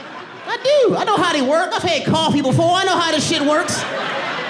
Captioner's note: audience laughing